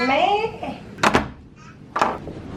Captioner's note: door opening